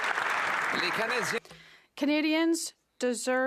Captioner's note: applause